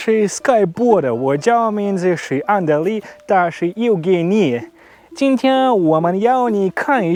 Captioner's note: spoke in Chinese